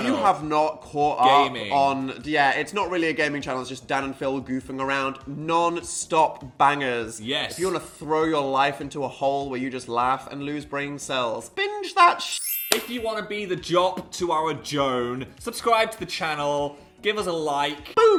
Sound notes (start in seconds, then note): 12.3 twinkle